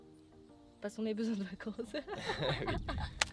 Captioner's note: laughs